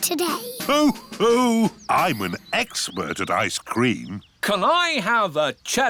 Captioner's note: laughs